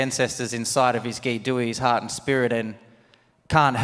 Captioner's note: speaks native language